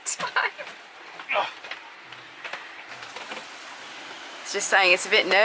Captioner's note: laughs; grunts